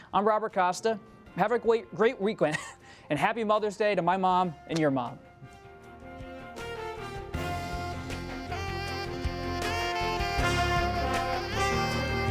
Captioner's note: laughs